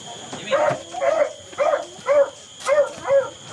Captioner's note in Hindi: कुत्ता भौंकता है